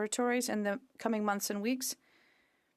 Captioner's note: speaking French